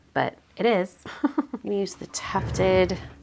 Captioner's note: laughing